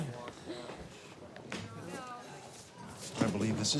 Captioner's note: students murmuring